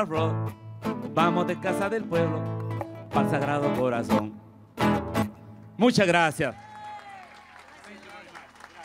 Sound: speaking spanish; applause

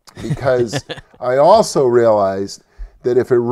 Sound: laughs

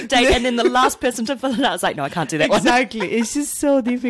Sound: laughs

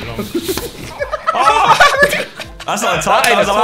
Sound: everyone laughing

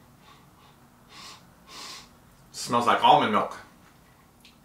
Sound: sniffs

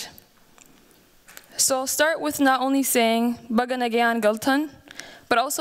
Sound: non-english speech

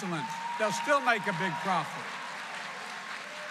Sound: applause

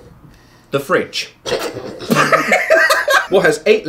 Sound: laughing

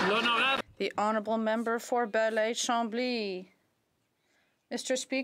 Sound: some Applause

